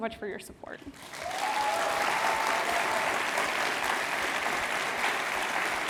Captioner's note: audience applauding